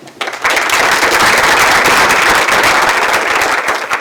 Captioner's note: audience applauding